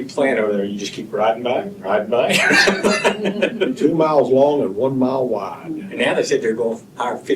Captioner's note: laughter